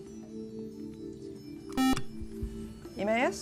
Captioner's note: buzzer